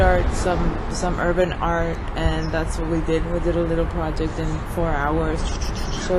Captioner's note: makes fast squishing sound of a spray can